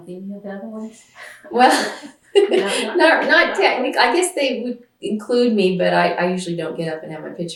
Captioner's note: laughs